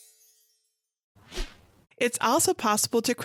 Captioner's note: magic sparkling; screen whooshing